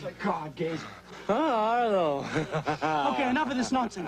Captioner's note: laughs